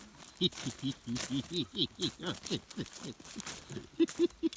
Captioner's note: laughing